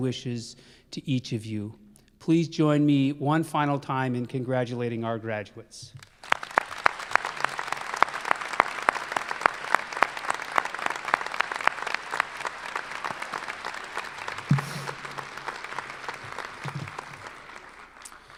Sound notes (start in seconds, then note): 9.0 applause